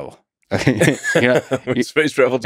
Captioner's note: both laughing